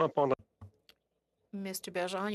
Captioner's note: speaking French